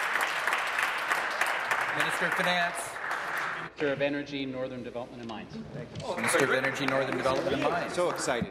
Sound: applause

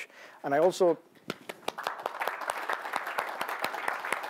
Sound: applause

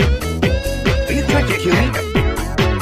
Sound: heheheheh

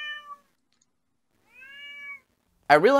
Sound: cat meowing

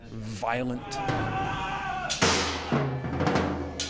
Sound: screaming

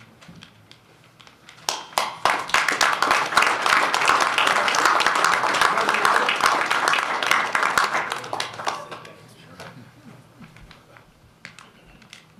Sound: applause

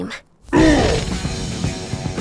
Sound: grunts

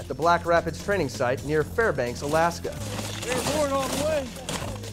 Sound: chatter; marching

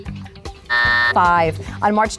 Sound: buzzer going off

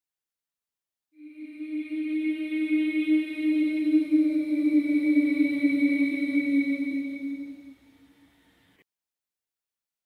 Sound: scary sound

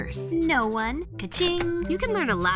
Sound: ca-ching

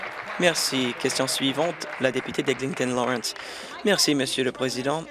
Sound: applause

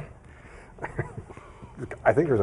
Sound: laughing

